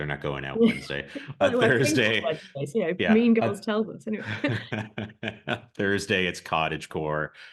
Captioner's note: both laugh